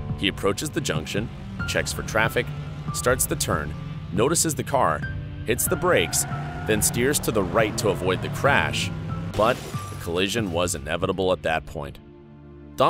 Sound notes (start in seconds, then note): 8.7 cars crashing